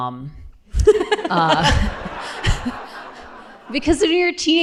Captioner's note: laughter